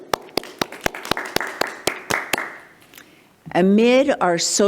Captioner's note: attendees applauding